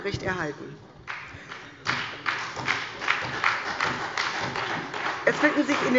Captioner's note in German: Beifall bei der SPD